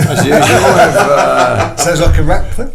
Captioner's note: everybody laughing; laughter drowns out speaker